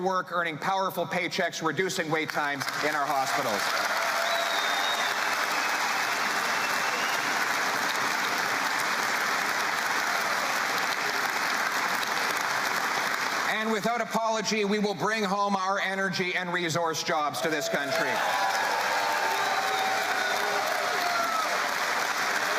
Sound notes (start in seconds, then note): 9.1 cheering and Applause